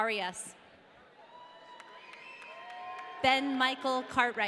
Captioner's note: audience cheering